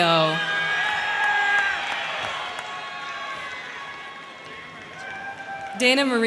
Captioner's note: crowd cheering; crowd clapping